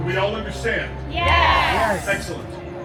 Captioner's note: guests all yelling “Yes!”